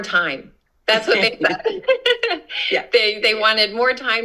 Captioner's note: laughter